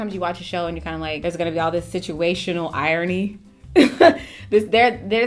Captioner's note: chuckles